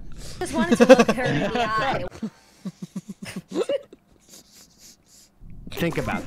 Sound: laughter

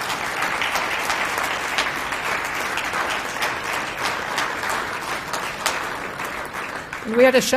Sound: applause

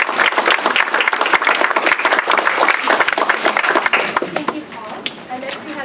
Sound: applause

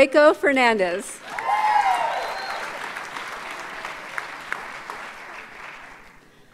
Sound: audience cheers and applauds

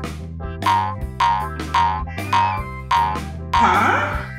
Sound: footsteps boinging

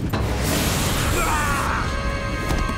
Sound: screaming

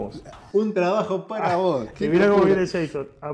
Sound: ha ha ha

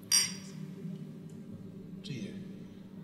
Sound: glasses clink

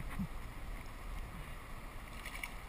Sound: splash

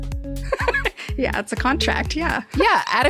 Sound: laughs

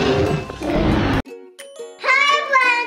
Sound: dinosaurs roaring; upbeat music

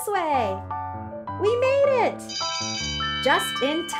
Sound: school bell rings

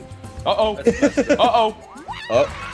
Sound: laugh

